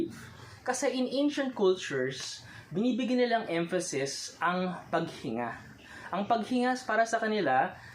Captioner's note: breathing